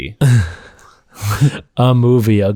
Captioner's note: laughter